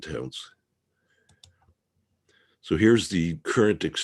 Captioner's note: mouse clicking